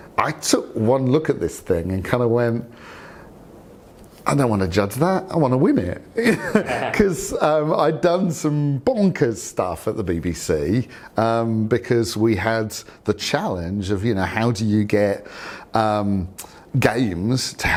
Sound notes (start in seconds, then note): 6.2 laughter